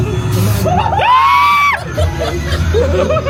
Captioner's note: laughing; everybody screaming; everybody laughing